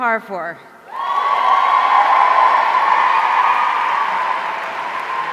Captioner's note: audience cheering